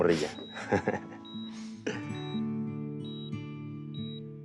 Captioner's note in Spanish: Sonido de telemetría